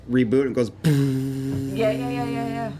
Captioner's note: bwomp